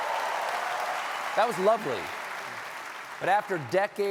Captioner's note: applause